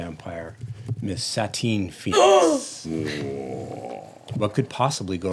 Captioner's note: gasping